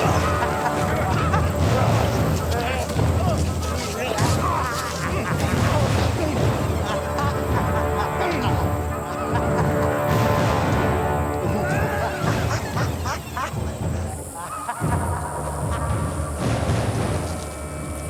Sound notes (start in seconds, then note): 0.5 laughs